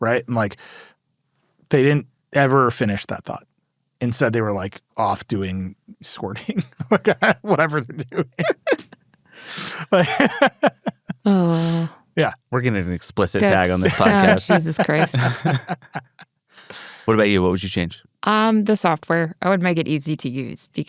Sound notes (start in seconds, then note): 9.6 laughs